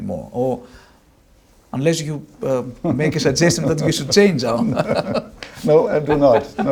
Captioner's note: laughs